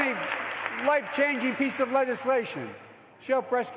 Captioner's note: cheers and applause